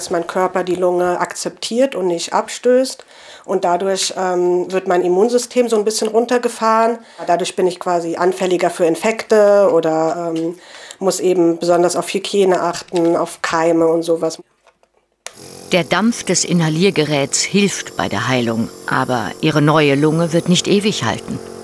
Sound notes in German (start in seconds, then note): 15.7 Leises Brummen